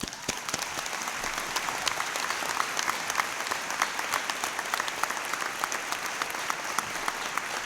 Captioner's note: applause